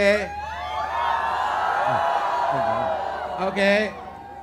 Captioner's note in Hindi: चियरिंग